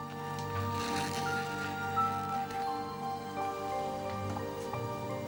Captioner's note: pen nib scratching